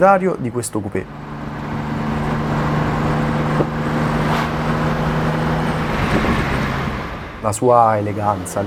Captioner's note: dino noises